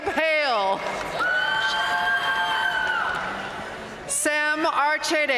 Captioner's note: audience cheering and applauding